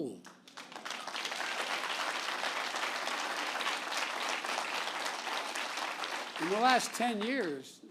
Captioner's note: applause